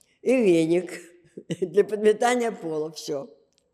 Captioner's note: laughing